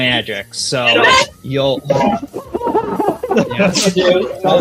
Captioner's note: laughing